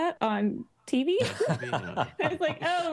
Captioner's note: laughing